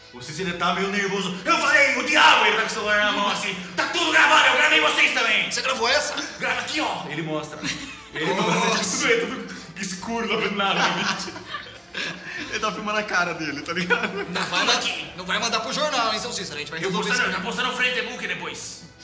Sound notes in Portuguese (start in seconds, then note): 7.6 Risadas; 10.6 Risadas